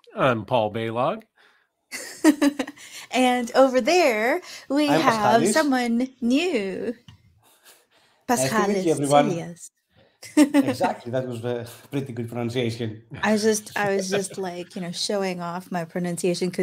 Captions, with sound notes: - I'm Paul Balogh. - (chuckles) And over there we have someone new. Paschalis Tsilias. - Good afternoon, everyone. Exactly, that was the pretty good pronunciation. - I was just like, you know, showing off my pronunciation